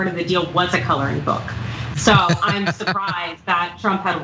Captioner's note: laugh